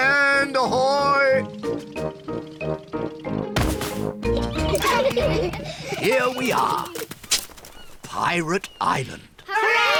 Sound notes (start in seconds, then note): 4.3 all giggle